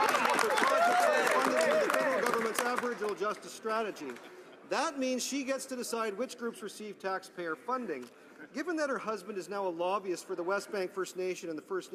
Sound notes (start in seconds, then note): 3.9 some Applause